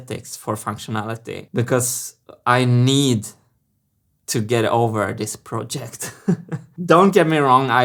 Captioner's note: chuckles